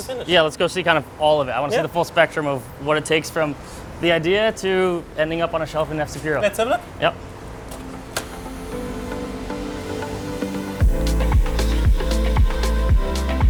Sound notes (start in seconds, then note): 7.5 door opens; 10.8 pulsing music